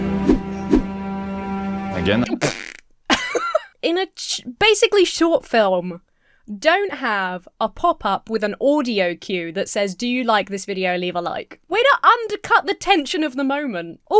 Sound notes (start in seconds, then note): 0.0 call to action swooshes; 2.3 Emma splutters; 3.1 Emma laughs